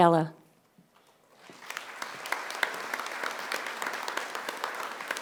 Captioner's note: audience applauding